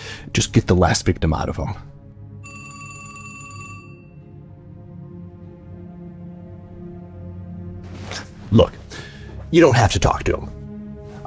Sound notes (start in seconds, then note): 2.4 phone ringing